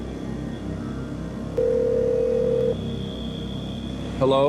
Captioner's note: phone ringing